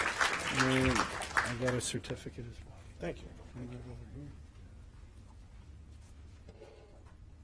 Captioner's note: applause